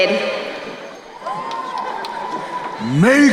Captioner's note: crowd cheering